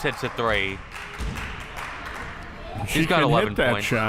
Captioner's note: crowd cheering